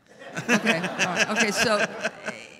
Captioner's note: audience laughs; laughs